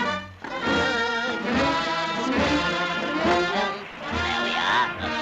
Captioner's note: Popeye humming